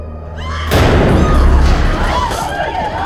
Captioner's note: nurse screaming; runaways screaming